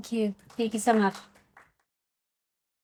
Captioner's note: audience applauding